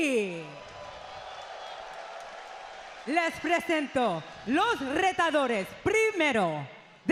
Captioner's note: applause